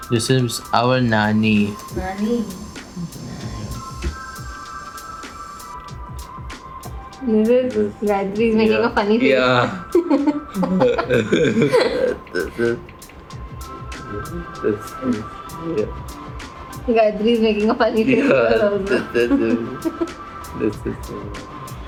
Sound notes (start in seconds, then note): 10.1 laughs; 14.2 laughs